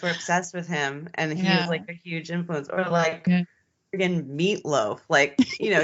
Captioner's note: both giggling